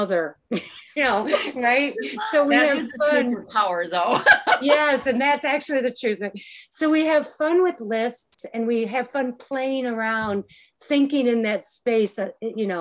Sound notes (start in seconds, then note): 4.0 laughs